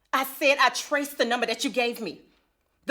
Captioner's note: none